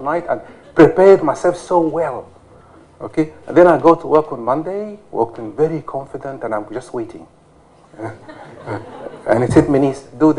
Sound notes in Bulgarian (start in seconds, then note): 8.0 смях